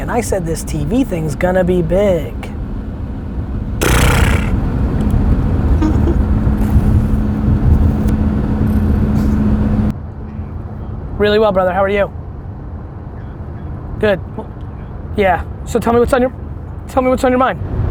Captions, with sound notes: and I said this TV thing is gonna be big. (blows raspberry) (laughing) Really well brother, how are you? Good, yeah, so tell me what's on your mind?